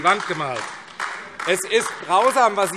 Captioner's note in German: Beifall AfD